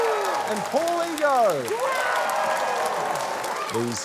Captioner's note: cheering, applause